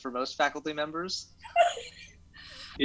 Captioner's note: laughs